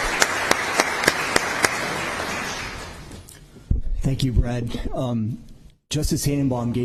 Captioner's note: applause